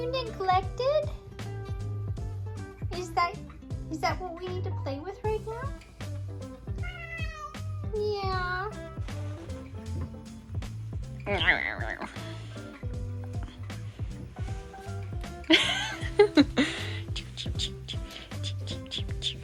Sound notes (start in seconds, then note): 11.1 imitating nomming noises; 15.3 laughing; 18.0 making wooshing noises